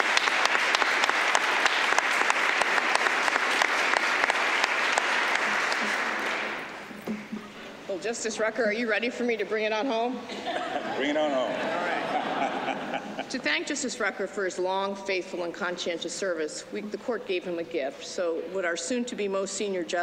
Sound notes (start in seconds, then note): 10.2 laughter